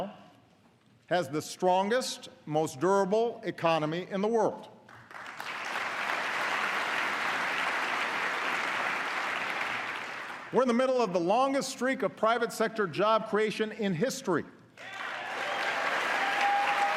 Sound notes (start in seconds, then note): 4.8 applause